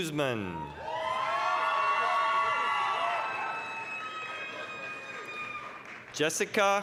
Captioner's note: applause, cheering